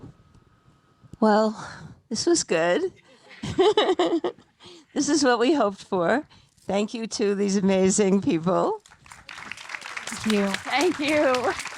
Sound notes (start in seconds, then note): 3.1 audience laughing; 3.1 laughing; 8.9 audience applauding